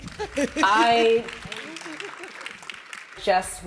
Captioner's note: audience applauding